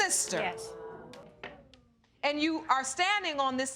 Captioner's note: audience clamoring